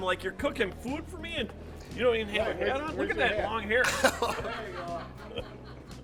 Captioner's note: laughing